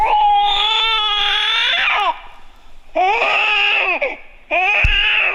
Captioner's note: baby screaming